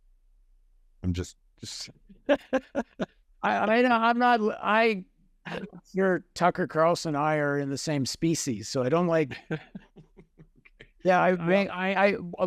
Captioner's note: laugher